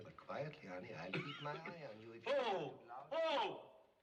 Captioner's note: coughing